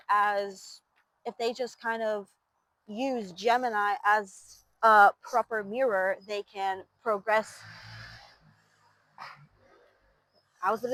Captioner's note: engine roaring